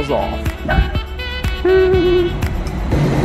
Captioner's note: chuckles